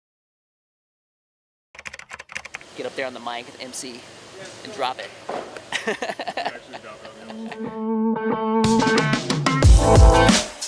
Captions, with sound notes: (typing) - Get up there on the mic, emcee, and drop it. (Laughs) (upbeat music)